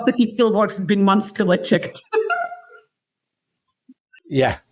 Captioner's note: laughs